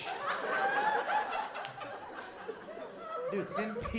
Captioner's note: laughter